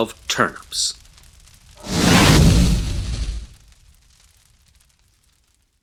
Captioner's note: flames Ignite and WHOOSH